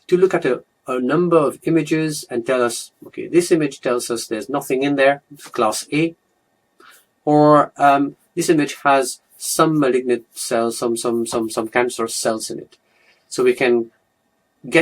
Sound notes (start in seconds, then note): 10.9 stammers